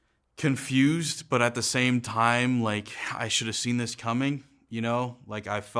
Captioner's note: none